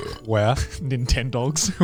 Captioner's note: burps; chuckles